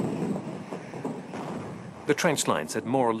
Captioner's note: bombs exploding